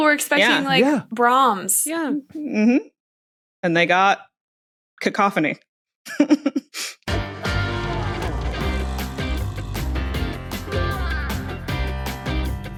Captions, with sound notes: People were expecting Brahms. And they got... cacophony. (giggles) Caption+ by JS* caption.plus | @caption_plus